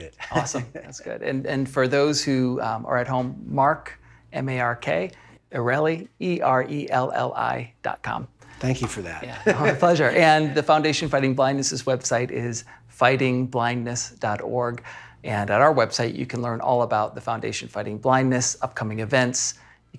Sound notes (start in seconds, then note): 9.1 laughing